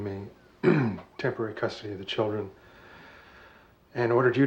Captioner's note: clears throat